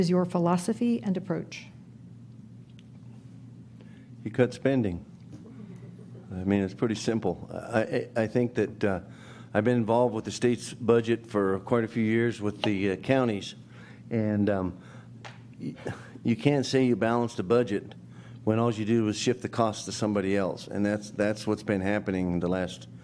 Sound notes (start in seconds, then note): 5.4 audience chuckles